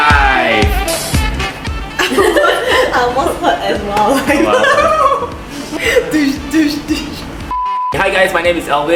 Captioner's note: laugh hysterically